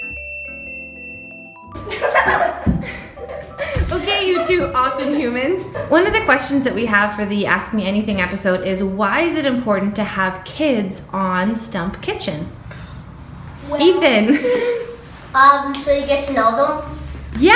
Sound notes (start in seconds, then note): 0.0 bell dings; 1.8 laughs